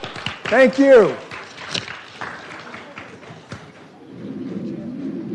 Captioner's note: audience applauding